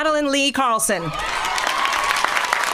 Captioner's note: applause